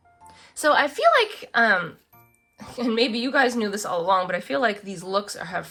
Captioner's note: laughs